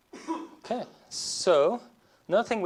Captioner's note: student coughs